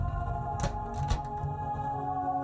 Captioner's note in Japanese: 扉の開閉音：ガッチャン